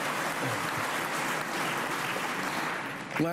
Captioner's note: applause